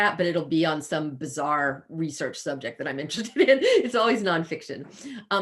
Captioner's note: chuckles